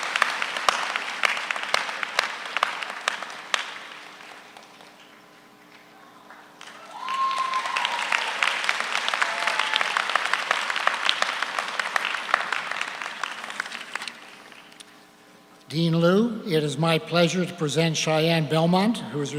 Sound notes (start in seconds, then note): 6.6 audience cheers; 7.2 audience applauds